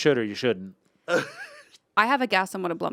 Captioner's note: Anthony laughs